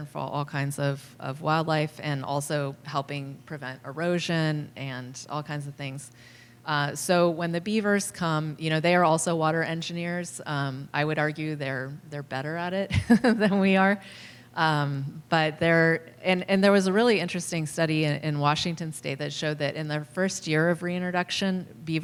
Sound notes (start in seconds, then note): 12.9 laughter